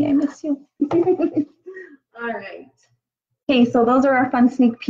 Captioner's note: giggles